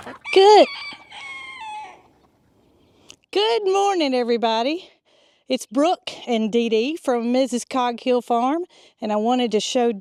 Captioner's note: rooster Crows